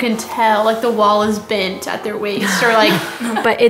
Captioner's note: laughter